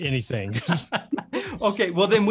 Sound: both laughing

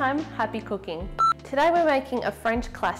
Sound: beep

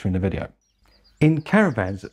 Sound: birds chirping

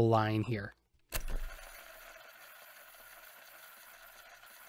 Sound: fast forward noises

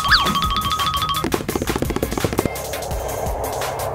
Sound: xylophone tinkling; feet stepping; jets flying

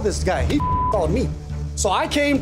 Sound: beeping

